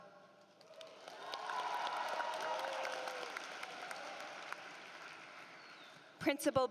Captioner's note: applause